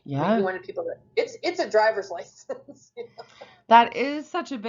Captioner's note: laughs